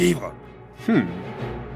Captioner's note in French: hum